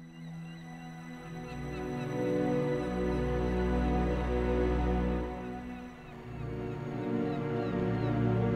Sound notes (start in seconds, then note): 0.5 dramatic music; 0.5 gulls squawk